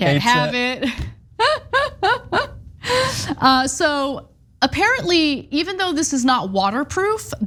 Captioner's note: laugh